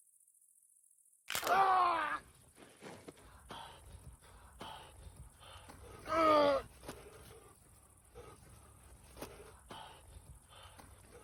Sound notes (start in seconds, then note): 0.8 bone pop